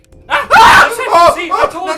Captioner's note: screams